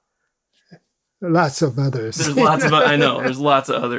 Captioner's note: laughs